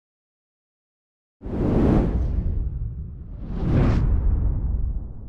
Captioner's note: air whooshes